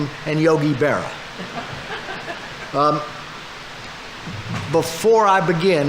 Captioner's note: audience laughing